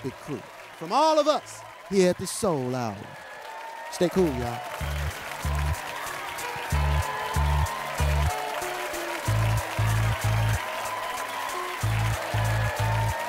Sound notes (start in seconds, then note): 4.8 cheering and applause